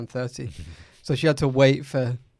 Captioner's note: laughs